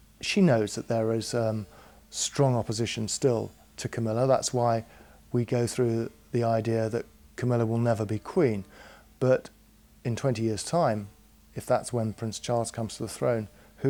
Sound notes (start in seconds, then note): none